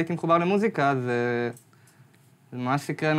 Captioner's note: none